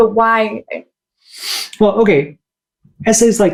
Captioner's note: sniffs